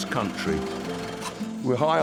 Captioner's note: truck rumbles